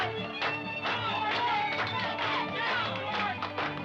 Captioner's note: crowd chattering